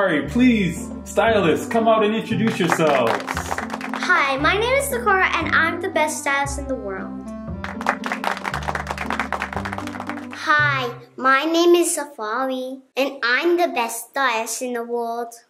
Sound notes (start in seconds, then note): 7.6 applause